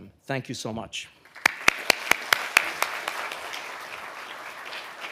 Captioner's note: audience applauding